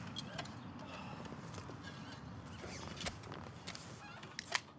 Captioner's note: none